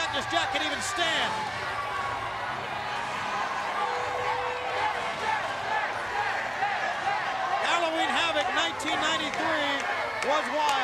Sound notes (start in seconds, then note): 1.7 crowd cheering